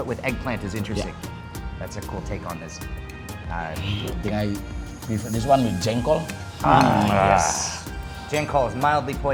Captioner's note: both shout